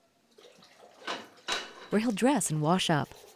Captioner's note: water splashes; metal clangs